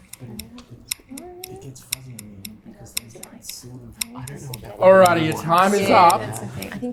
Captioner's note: murmuring